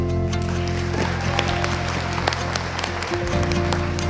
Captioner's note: audience applauding